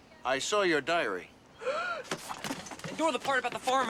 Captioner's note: gasps